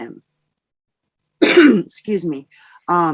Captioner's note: clears throat